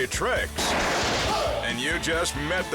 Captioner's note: circuit explodes